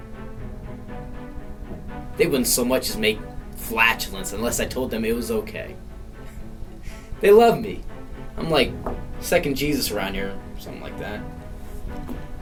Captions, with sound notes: (exciting dramatic music) They wouldn't so much as make flatulence unless I told them it was OK. (laughing) They love me. I'm like second Jesus around here, or something like that.